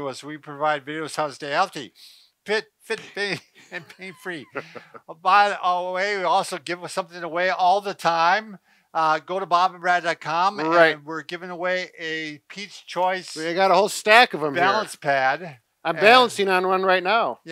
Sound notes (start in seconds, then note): 3.0 both laugh